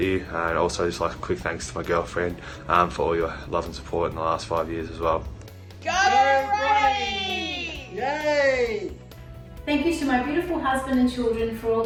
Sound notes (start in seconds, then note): 5.7 all shouting in unison